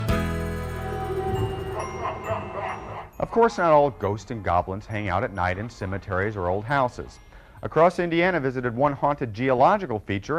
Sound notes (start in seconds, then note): 0.5 gentle music; 1.4 ghoul cackles; 1.5 eerie music